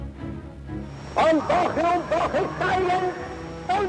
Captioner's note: speaking German